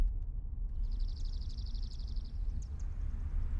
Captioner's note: birdsong